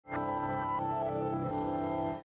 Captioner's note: digital tone